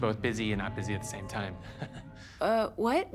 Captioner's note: chuckles